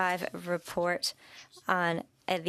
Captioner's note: speaking French